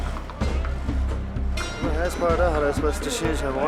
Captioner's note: foreign language